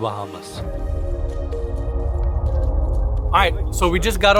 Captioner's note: air whooshing